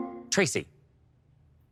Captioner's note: electric chime